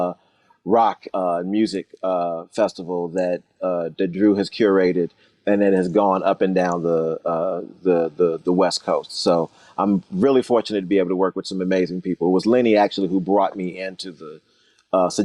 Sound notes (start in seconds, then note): none